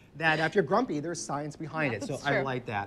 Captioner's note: laughs